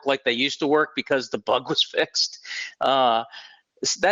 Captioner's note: chuckling